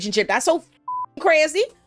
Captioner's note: beep